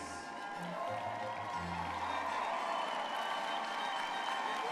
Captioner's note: graduates cheering